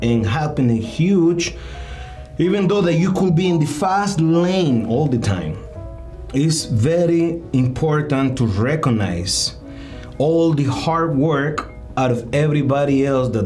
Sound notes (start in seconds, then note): none